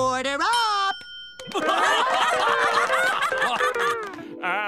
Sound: clapping, laughing

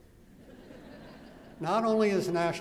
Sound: laughter

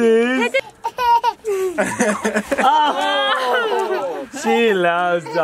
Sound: laughing, baby laughing

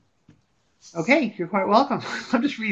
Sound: voiceover

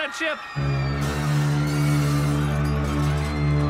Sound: foghorn blaring, objects clattering

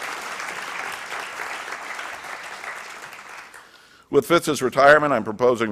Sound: applause

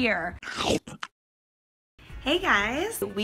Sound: chomping

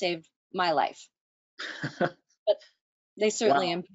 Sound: chuckles

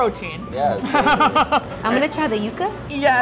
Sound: laughing

